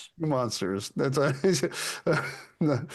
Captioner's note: laughs